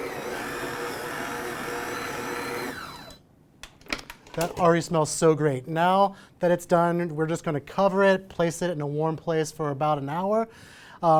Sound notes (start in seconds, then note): 3.0 mixer beeps